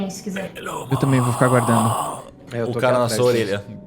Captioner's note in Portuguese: Grunhido